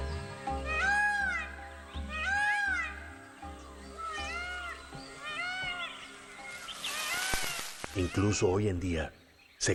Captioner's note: graznidos